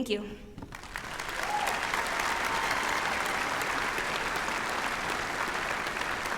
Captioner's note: applause